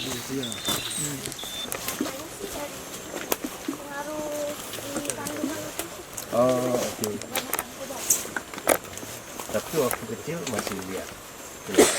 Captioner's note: participants and guides having conversations